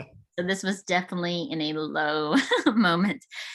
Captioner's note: chuckles